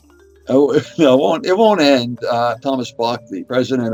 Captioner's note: chuckles